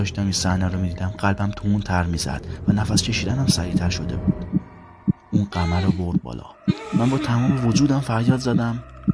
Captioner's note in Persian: صدای تپش قلب